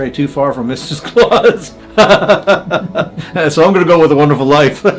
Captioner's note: laughing